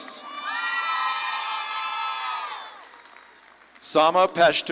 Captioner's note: audience claps and cheers